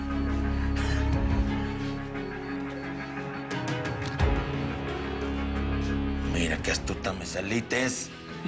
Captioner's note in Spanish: Bip